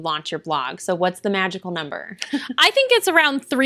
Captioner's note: laughter